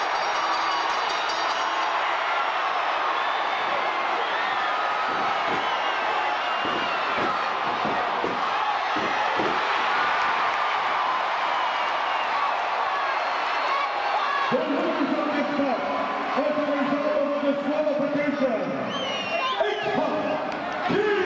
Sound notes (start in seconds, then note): 0.0 bell ringing; 6.1 crowd chattering; 6.1 stage clattering; 15.7 crowd cheering